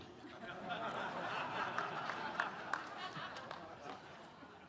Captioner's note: audience laughing